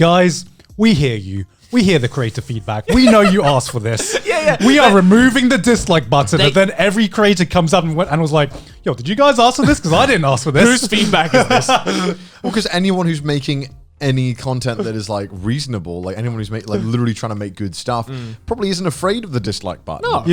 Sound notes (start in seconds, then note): 2.8 Joey laughing; 11.7 all laughing